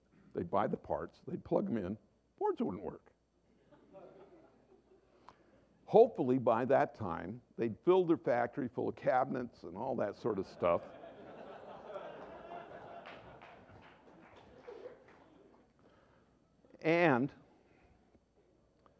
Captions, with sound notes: they’d buy the parts, they’d plug them in, boards wouldn’t work. Hopefully, by that time, they’d fill their factories full of cabinets and all that sort of stuff… [Laughter] And,